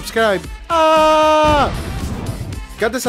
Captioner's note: explosion